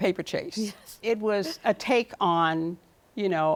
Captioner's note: laughs